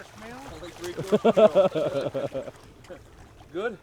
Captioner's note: laughter